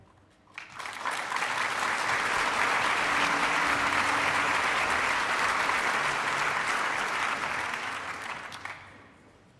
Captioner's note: applause